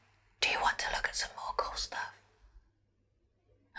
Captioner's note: whispers